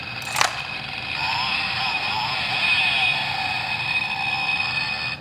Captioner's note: chainsaw noises